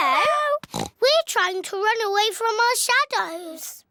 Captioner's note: oinks